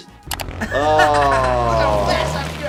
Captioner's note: motorcyclist laughing